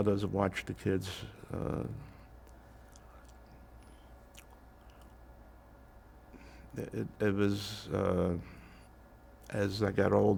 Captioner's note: pauses 6 seconds